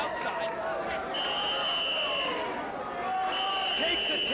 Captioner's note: whistle blowing